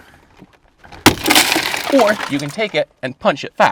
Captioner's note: glass shattering